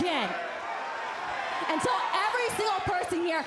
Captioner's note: crowd cheering